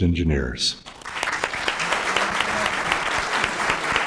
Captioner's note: applause